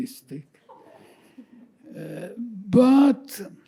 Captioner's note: attendees chuckling